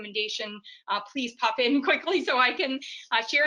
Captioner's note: laughs